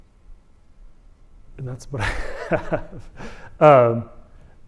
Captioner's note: laughter